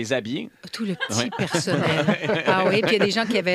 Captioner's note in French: rires